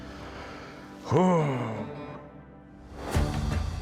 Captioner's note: exhales